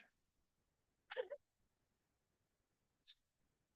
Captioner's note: laughter